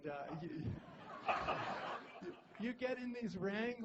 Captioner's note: laughter